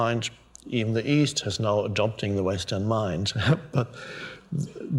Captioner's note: laughs